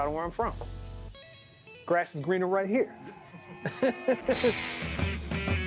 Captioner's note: laughs